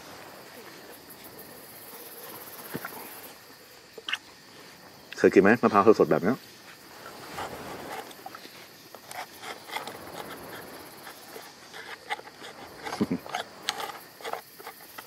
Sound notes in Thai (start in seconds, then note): 12.7 เสียงหัวเราะ